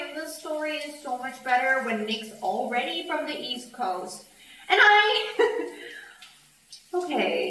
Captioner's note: laughs